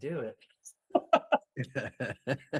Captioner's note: laughing